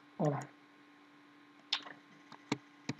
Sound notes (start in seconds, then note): 0.0 mouse clicking; 1.8 button clicking